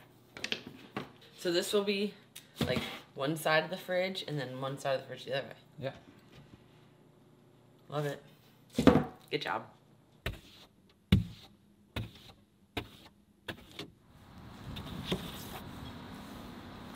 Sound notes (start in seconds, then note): 10.5 scraping